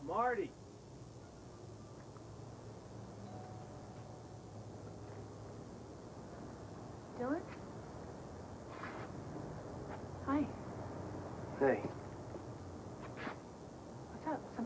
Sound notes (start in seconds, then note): 3.2 doorbell rings